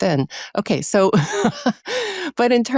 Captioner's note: laughs